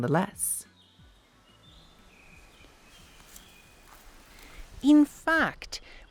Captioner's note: forest ambience